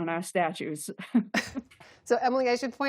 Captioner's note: laughter